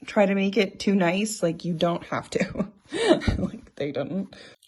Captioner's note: chuckling